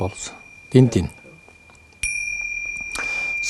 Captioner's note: bell ringing sound